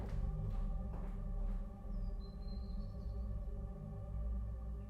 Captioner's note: footsteps fading